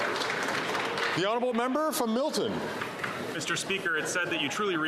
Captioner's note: some Applause